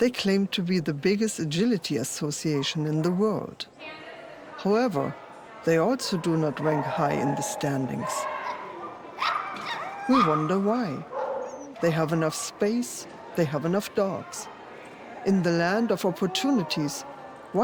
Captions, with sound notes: They claim to be the biggest agility association in the world. However, they also do not rank high in the standings. (dogs barking) We wonder why. They have enough space. They have enough dogs. In the land of opportunities,